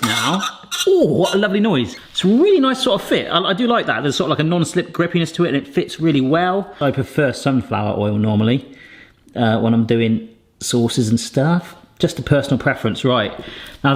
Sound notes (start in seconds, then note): none